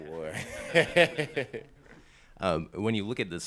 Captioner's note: people laughing